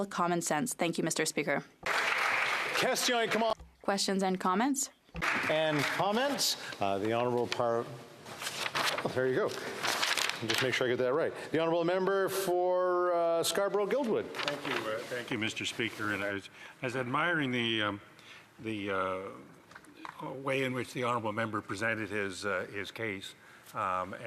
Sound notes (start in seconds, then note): 5.2 applause